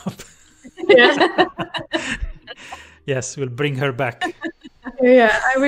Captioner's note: laughter